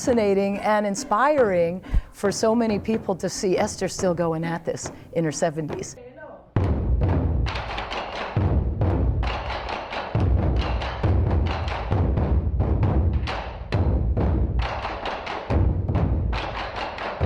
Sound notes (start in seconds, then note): 6.1 chanting; 7.1 drumming